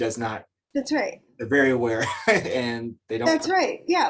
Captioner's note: chuckles